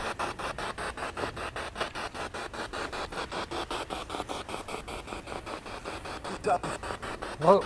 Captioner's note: noise of the spiritbox in the background